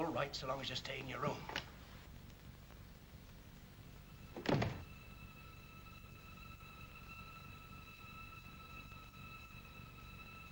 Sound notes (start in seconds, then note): 4.3 door closes